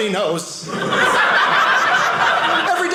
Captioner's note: audience laughing